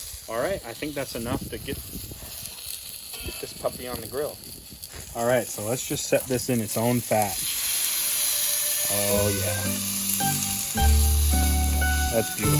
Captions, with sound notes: All right, I think that's enough to get this puppy on the grill. All right, so let's just set this in its own fat. (sizzle and spattering) Ooh yeah, that's beautiful.